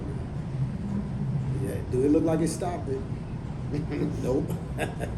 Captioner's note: laughs